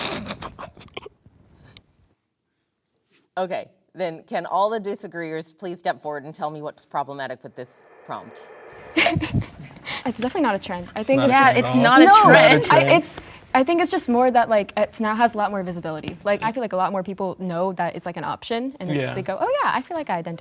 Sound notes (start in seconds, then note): 8.9 chuckles